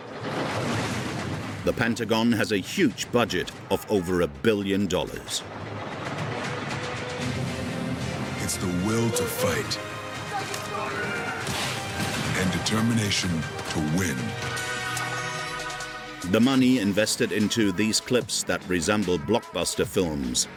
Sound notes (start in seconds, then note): 0.3 air whooshing; 5.7 dramatic music; 10.5 soldiers yelling; 20.4 upbeat music